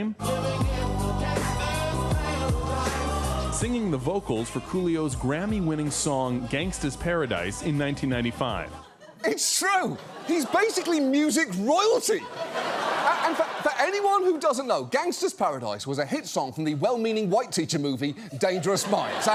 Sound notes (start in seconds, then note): 12.2 studio audience laughs